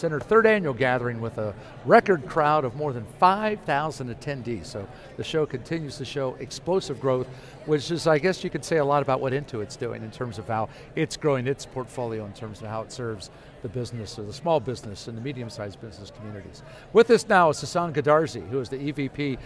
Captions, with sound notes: Third annual gathering with a record crowd of more than 5,000 attendees. (crowd noise) So the show continues to show explosive growth. Which is, I guess you can say a lot about what Intuit's doing, in terms of how it's growing its portfolio, in terms of how it serves the business ... The small business and the medium-size business communities. With us now is Sasan Goodarzi, who is the EVP